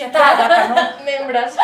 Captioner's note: they laugh